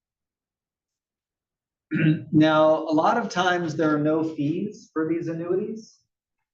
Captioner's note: cough